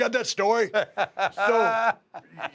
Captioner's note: laugh